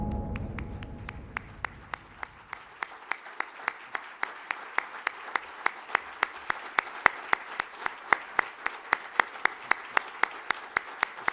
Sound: applause

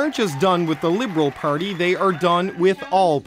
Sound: applause

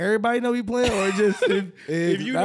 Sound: laughing

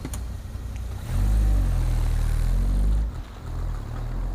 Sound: car engine revving

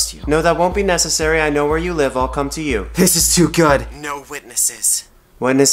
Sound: none

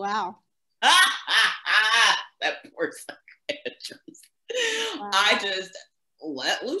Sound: loud laughter

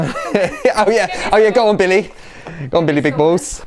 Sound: laughs

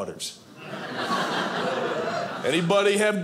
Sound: audience laughing

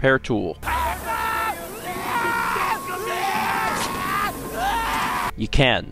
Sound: active blow torch and screaming

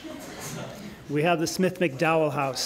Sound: laughter

